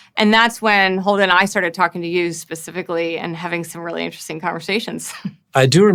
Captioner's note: laughs